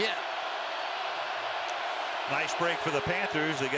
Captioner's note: cheering